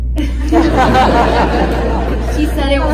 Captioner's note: audience laughs